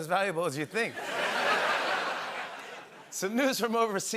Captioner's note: laughter